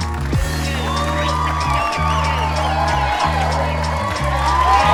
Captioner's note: audience cheering